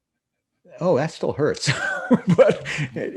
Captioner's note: laughs